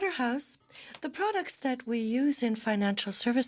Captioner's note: speaking French